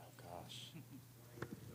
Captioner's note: laughter